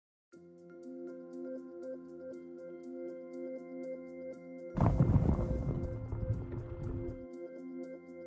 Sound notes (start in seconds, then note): 4.8 volcano Rumbling